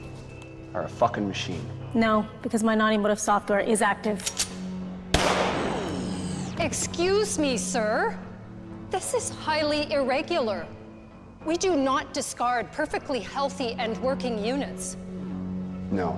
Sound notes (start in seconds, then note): 4.2 gun clicking; 5.1 gun firing